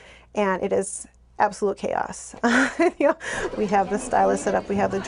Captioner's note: laughing